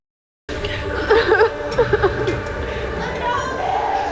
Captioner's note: crying